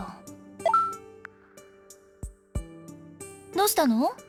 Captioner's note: silence